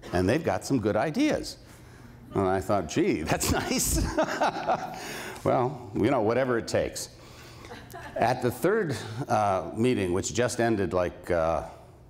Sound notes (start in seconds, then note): 3.3 laughs